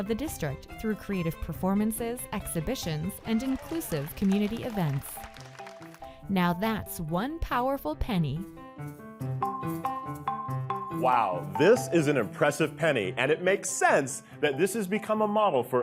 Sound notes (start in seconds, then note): 4.6 audience claps; 7.9 whimsical music